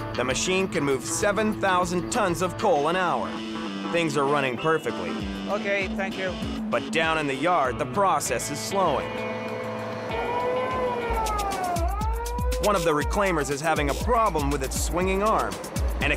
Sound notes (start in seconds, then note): 9.4 siren blares